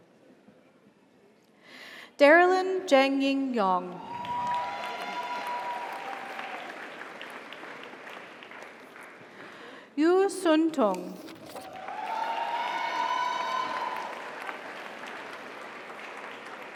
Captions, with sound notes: - Congratulations. - Thank you. - Darrellyn Zheng Ying Yong. (audience applauds) (audience cheers) Yu Sunteng. (audience applauds) (audience cheers)